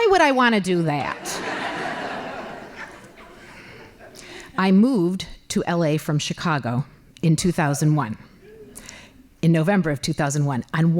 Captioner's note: laughing